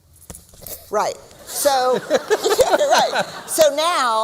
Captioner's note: laughter